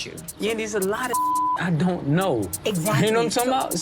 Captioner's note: beep